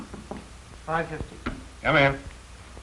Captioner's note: knocking on door